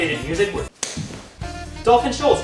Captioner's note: slap